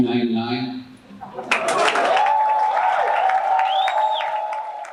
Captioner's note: cheers and applause